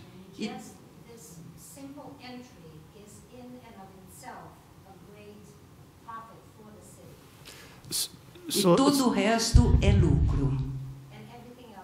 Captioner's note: speaking spanish